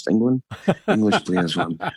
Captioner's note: laughs